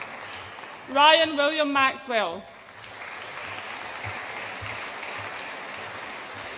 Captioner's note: audience applauds